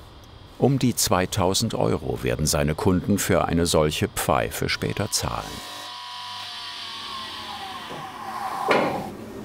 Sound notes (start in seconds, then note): 4.7 grinding noises; 7.9 grinding machine stops